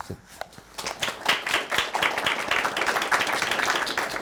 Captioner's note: crowd claps